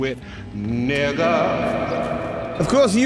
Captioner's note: voice echoes